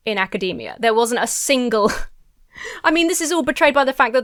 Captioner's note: laughs incredulously